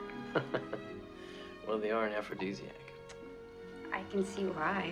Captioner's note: laughing